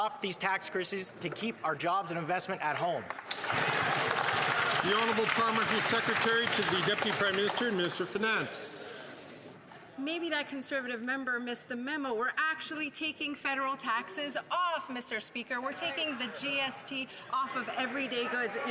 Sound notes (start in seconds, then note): 8.0 some Applause